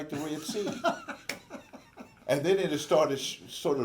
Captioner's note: laughs